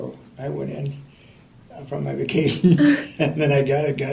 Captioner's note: laughter